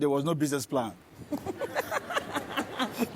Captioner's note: laughter